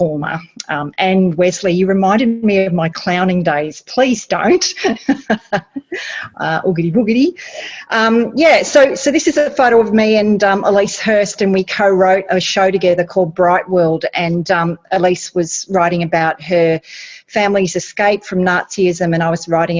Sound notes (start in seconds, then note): 4.5 laughs